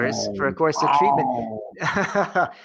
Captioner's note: laughs